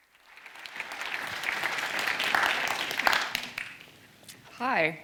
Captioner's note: audience clapping